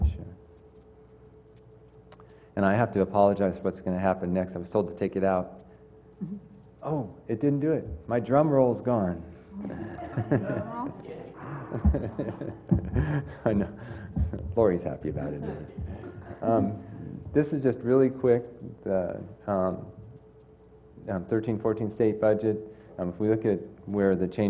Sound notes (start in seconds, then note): 9.6 laugh